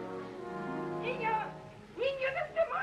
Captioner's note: yelling in Spanish